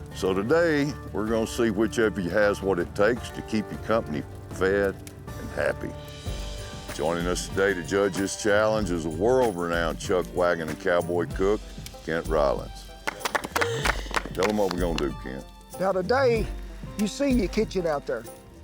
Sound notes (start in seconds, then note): 13.0 applause